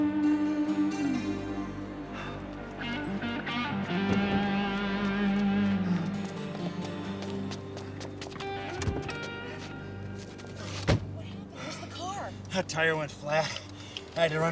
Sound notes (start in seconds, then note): 2.5 Jeff panting; 6.7 footsteps pattering